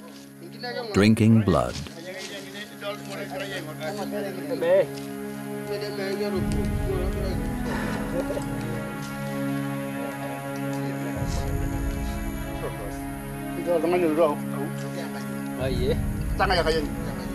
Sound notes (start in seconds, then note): 8.0 chattering in foreign language